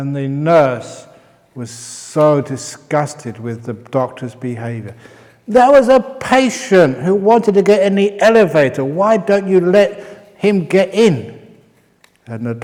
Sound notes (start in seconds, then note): none